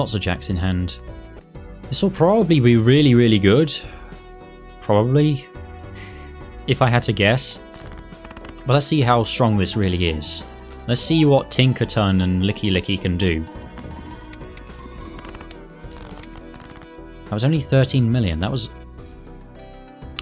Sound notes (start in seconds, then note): 6.0 chuckle